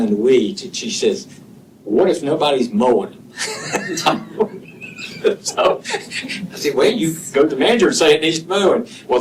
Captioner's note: laughter